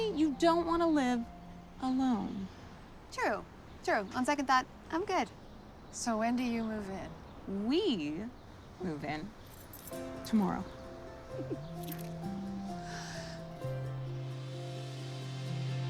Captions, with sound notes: Are you telling me you don't wanna live alone? True, true. On second thought, I'm good. So when do you move in? We move in [key jangles] tomorrow. [gentle cheerful music]